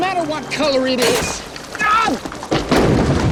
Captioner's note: handle clanging; casket crashing